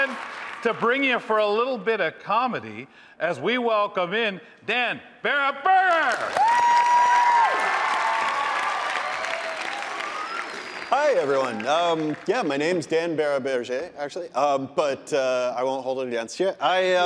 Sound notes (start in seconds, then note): 6.0 audience cheering; 6.0 audience applauding